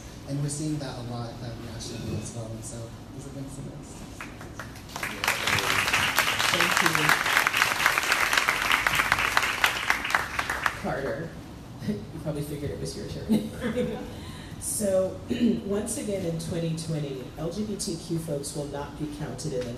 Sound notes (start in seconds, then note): 4.2 crowd applauding; 13.8 laughs